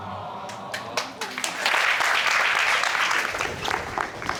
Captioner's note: crowd cheering